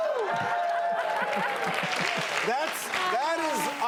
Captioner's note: applause